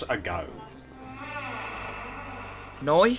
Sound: door creaks open

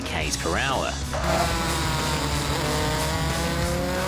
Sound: engine revs

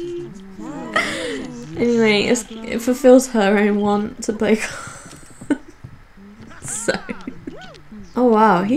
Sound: laughing

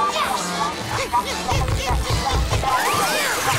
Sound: indistinct chattering

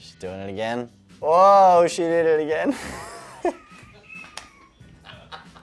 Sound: laughs

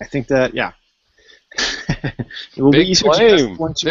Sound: laughs

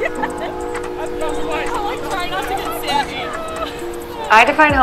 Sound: Alex laughing; group chattering

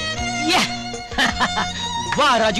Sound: laughing

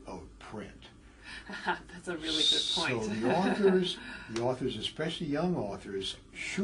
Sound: laugh

